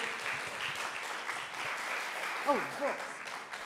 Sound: audience applause

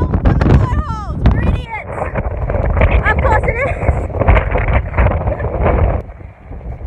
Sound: laughs

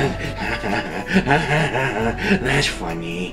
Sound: laughing

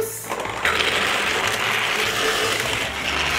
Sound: moving train

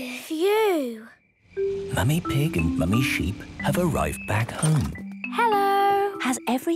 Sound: whispering

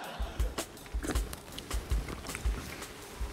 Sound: laughter; slurps

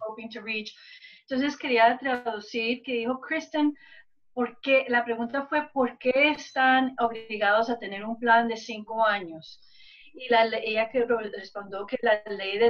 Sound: speaking spanish

